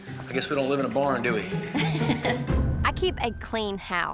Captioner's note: laughs